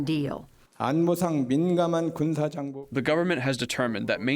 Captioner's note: through translator